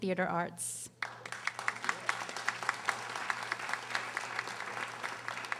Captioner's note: audience applauding